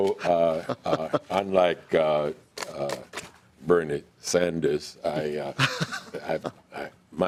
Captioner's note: laughing